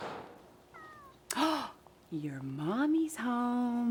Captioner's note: door slams in the distance; cat meows; gasps